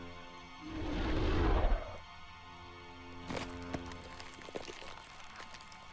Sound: dinosaur breathing

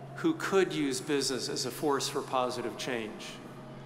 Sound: none

